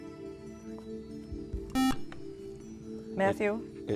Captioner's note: buzzer